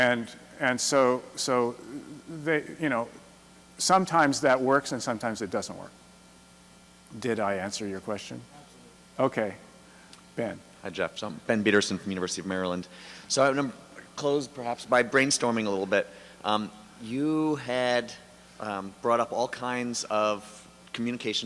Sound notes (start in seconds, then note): 8.9 voiceover; 11.4 voiceover